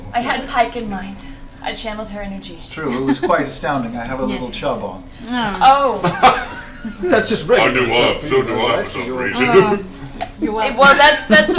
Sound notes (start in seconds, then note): 5.8 groans; 6.0 laughs